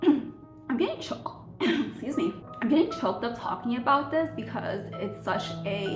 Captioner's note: cough